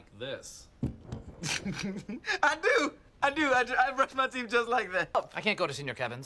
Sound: TROY laughs

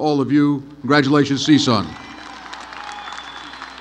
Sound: applause

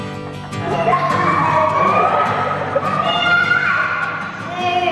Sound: excited children sounds

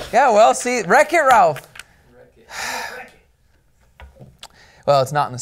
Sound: sighs

